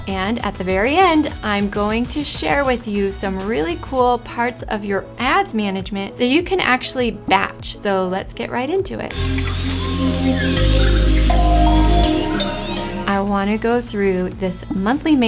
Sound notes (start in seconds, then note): 9.1 electronic music; 9.2 birds chirping